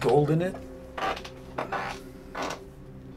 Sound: chair creaking

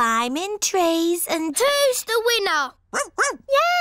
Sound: barks

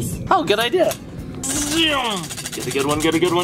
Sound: wheel spinning

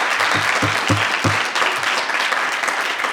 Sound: audience applause continues; gavel pounding; audience applause continues

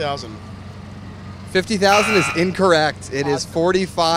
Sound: buzzer

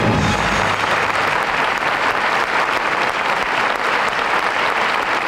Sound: audience applauding

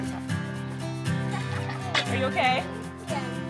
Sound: laughs

